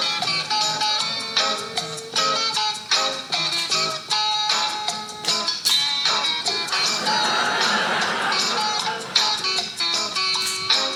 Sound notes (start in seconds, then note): 6.6 audience laughing